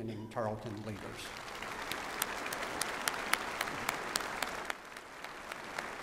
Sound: applause

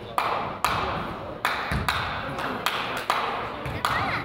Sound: man claps

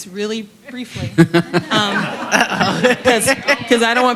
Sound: laughter

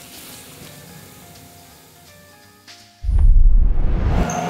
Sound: water running

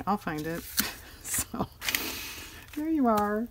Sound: laughs

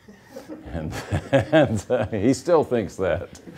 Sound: laughing

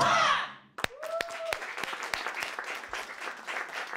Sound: cheers and applause

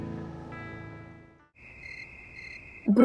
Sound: cricket sound

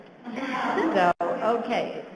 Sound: laughter

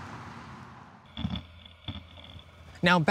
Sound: grinding

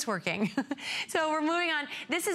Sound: laughter

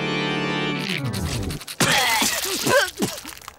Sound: gagging

